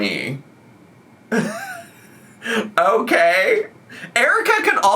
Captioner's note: laughs